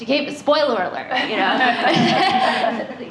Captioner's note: laughter